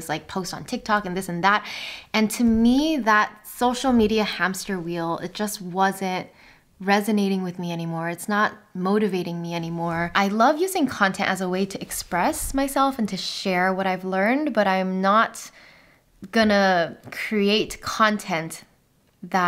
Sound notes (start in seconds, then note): none